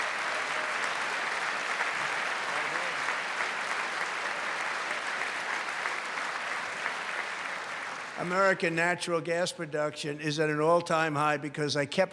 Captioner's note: applause